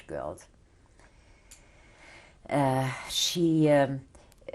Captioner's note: pauses for 3 seconds